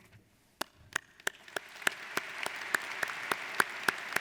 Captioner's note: applauding